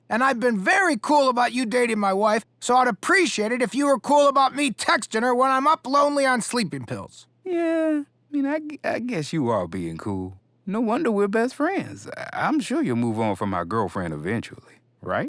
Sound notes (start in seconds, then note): none